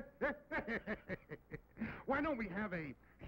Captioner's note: laughs